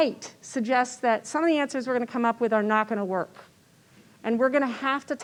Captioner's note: none